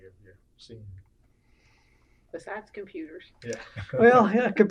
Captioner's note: laughter